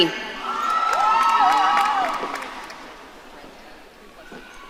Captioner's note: audience cheering